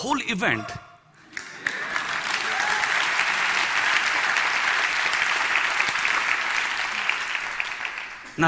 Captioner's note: Applause; 鼓掌